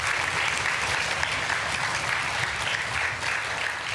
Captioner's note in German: Jubel und Applaus